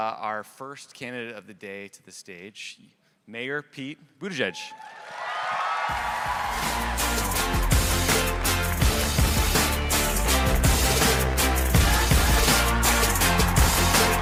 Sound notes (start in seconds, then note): 5.0 audience cheering; 5.9 upbeat music